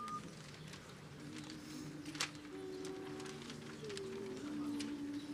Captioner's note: choir members humming